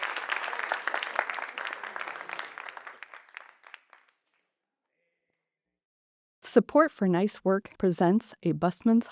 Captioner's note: applause